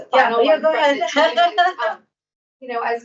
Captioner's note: laughs